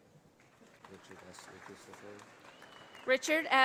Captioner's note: audience applauding